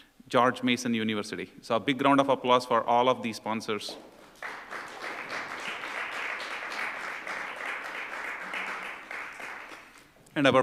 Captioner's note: applause